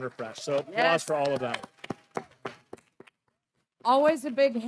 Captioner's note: clapping